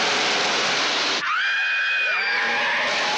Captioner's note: screaming